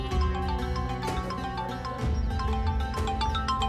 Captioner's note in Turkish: Telefon çalıyor